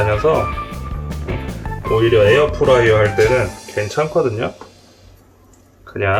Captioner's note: air fryer running out of water